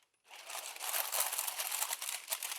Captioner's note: rustling